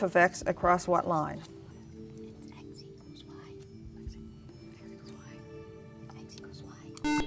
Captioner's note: whispering